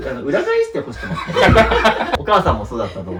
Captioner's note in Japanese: 笑い